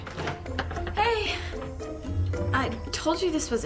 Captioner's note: doorbell rings